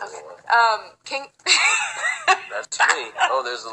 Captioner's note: laughs